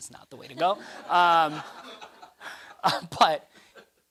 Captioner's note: laughter